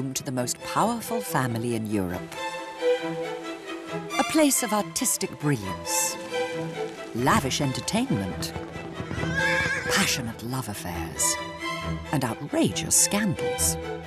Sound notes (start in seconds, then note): 2.4 dramatic orchestral music; 8.9 horse whinnies; 9.2 dramatic orchestral music